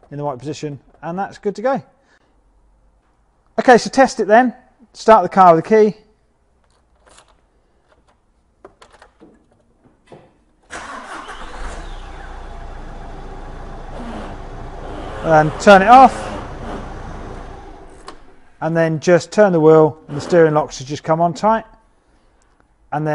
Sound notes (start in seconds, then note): 10.8 engine running; 17.6 engine stopped